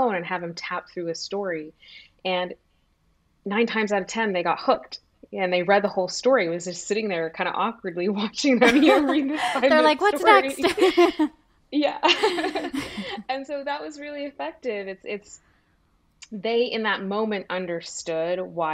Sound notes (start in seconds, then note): 8.6 laughing; 10.7 laughs